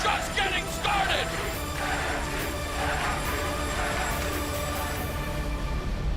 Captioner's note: crowd cheering